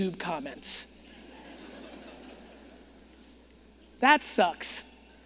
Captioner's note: audience laughing